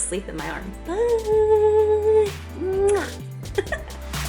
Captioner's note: kiss sound; electronic music